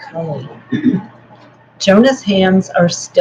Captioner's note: clears throat